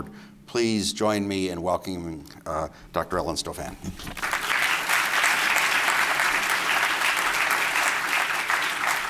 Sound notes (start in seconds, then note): 4.1 applause